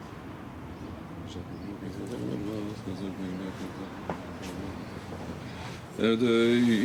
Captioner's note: speaking in foreign language